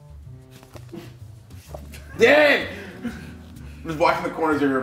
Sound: laugh

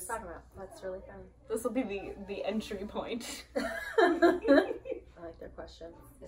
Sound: everyone laughs

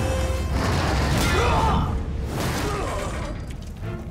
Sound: groaning

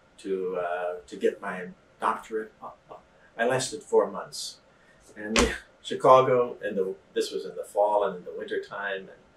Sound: laughs

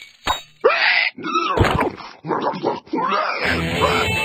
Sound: angry oinking; electric guitar riff

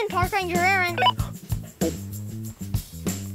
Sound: walkie-talkie beeps

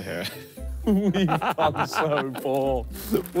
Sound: laughing

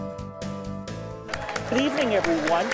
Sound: intense music; audience cheering

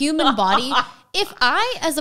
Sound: laughing

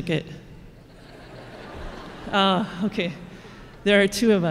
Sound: laughing

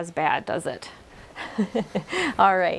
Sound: chuckles

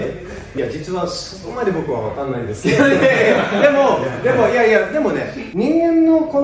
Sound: laughs

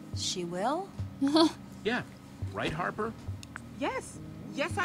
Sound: Sabrina laughs

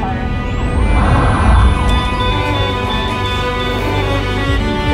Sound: sirens wailing

